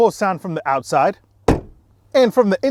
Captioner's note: door closes